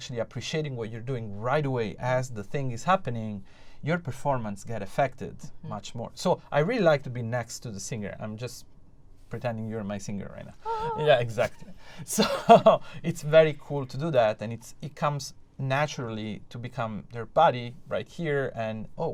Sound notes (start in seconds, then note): 10.7 laughter